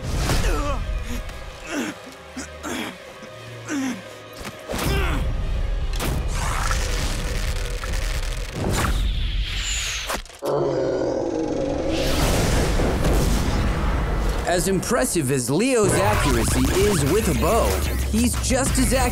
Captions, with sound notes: [grunting] [groaning] As impressive as Leo's accuracy is with a bow, he's just as accurate